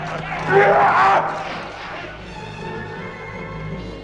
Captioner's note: Gordoza shouts